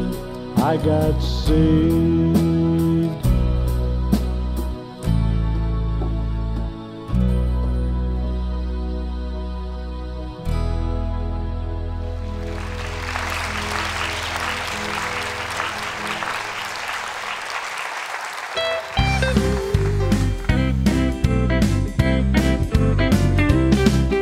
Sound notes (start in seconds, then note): 12.2 applause